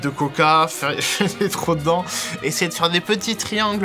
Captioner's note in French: rires